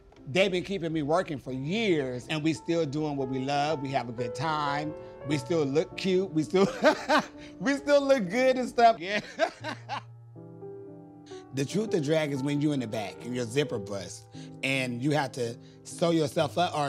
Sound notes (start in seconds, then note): 9.1 laughs